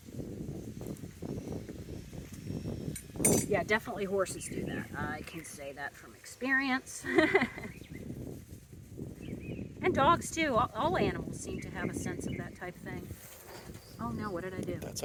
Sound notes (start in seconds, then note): 7.0 chuckles